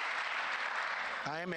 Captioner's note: applause